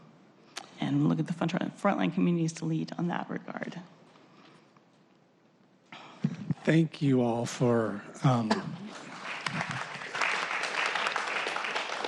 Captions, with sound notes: LINE COMMUNITIES TO LEAD ON THAT REGARD. >> THANK YOU ALL FOR -- [Applause] >> THANK YOU ALL FOR THE ONGOING